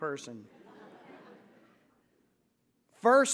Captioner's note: laughter